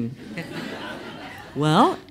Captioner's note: laughs